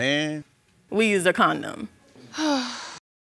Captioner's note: sighs